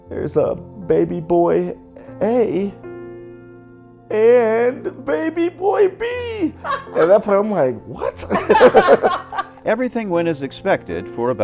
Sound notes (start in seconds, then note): 6.6 laughs; 8.0 laughing